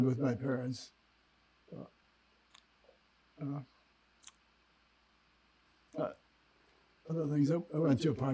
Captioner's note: pauses 6 seconds